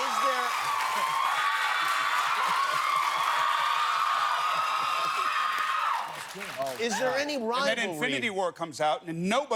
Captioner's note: cheers and applause